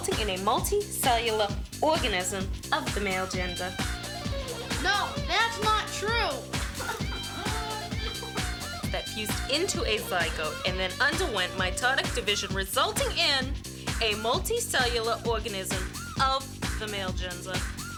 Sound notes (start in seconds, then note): 6.7 crying